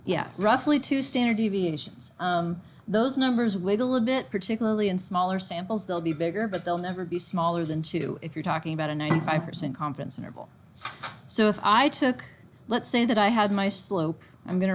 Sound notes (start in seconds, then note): none